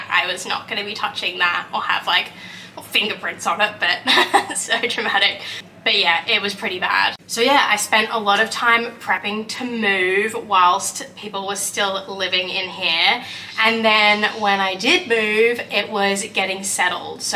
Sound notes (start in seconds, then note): 4.0 laughs